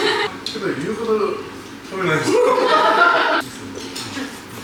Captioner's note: laughs